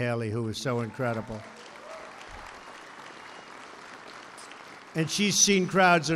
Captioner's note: applause